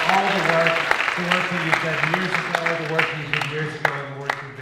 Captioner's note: voice Drowned In Audience Clapping